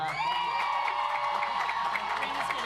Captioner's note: audience applauds